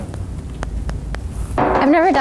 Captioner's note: thumps